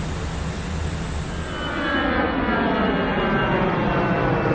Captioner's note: plane engine whirs